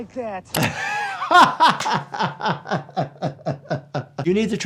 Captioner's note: laughing; hands clapping